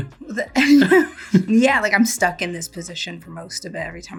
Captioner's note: chuckles